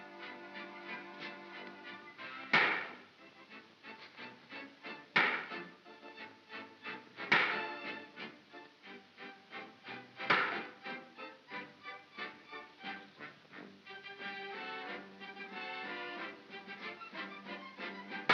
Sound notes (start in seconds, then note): 0.0 soft whimsical music; 2.5 bang; 5.2 bang; 7.3 bang; 10.3 bang; 12.3 soft whimsical music